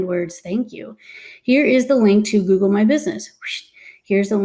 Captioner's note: exhales quickly